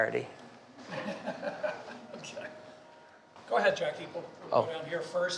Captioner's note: laughing